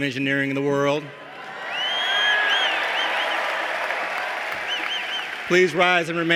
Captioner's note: applause